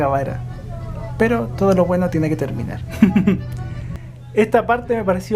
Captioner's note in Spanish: risas